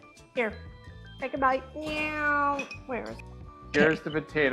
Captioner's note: mimicking jet plane